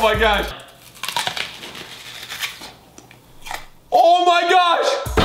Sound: onion crunching

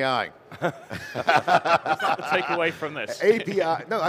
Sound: group laughing

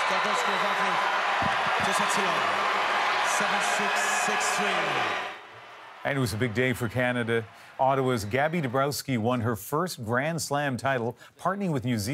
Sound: applause

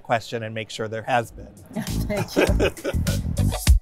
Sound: laughs

